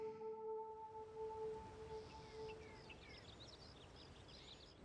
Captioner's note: birds chirping